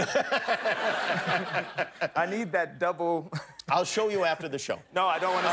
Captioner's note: laughter